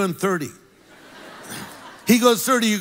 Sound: congregation laughs

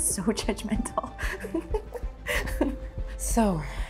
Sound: laughter

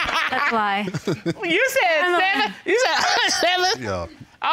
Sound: coughs

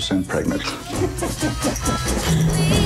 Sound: laughs

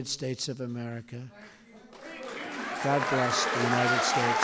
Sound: applause

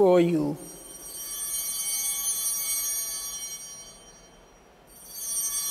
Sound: bell ringing

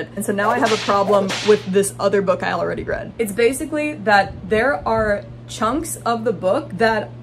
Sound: whip crack

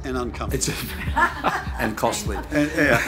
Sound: laughing

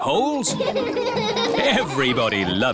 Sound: all laughing

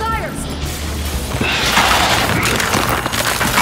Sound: footsteps

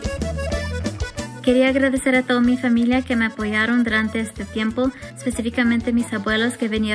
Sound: speaks in foreign language

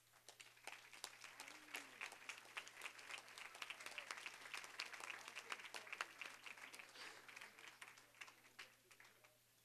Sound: applause

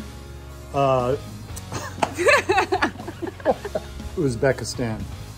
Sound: both chuckling

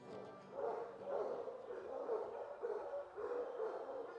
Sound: dogs barking

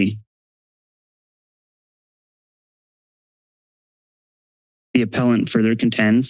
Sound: silence

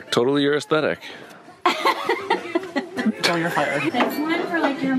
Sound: laughing

